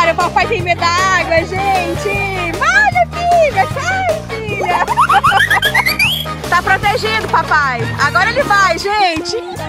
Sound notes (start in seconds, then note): 4.4 laughs